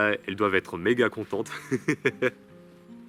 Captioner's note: laughter